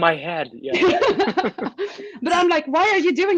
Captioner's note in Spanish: todos se ríen